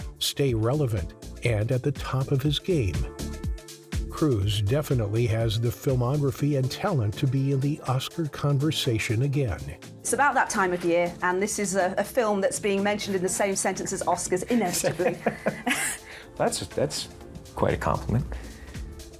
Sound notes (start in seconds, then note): 14.6 Tom laughs